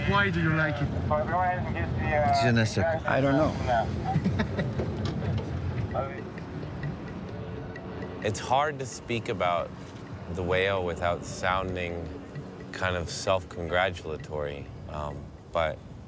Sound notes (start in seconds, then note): 3.7 laughing